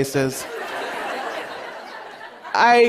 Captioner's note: laughter